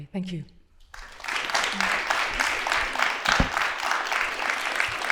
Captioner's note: applause